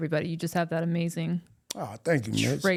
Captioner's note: none